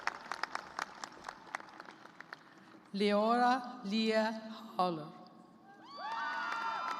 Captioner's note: cheers and applause